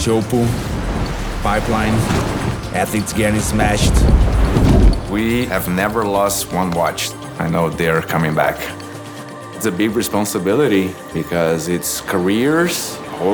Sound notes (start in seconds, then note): 3.9 water rushing